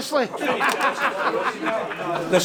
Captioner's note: man laughs